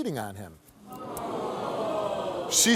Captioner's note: audience gasping